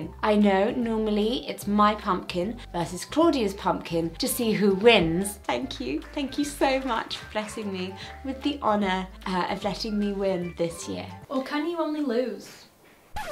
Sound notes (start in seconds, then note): 6.7 applauding